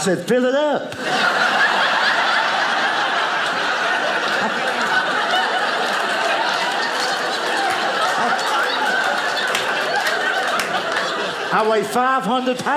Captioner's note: audience laughing